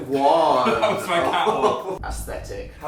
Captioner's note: laughs